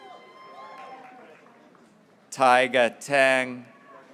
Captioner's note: graduates cheering